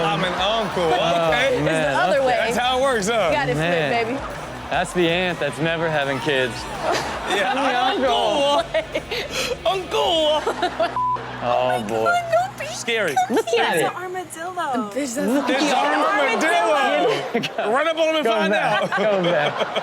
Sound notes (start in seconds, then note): 10.4 laughs; 15.2 audience laughs